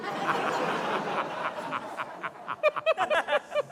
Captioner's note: laughter